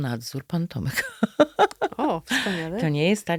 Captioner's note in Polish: śmiech